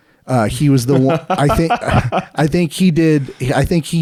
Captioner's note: laughing